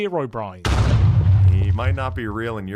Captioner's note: muffled explosion